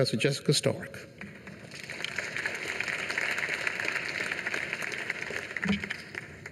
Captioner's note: applause